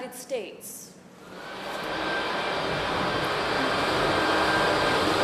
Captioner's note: loud fans blowing